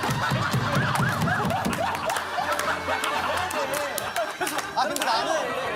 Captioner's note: Enteritis alarm sound